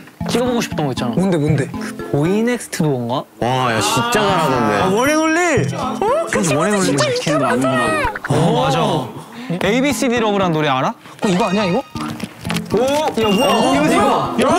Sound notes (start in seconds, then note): 7.8 haha